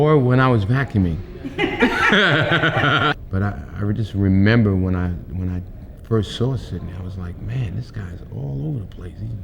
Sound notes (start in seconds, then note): 1.4 Interviewer and Denzel laughing